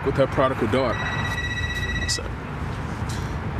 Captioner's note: phone ringing